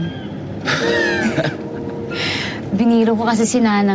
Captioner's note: laughs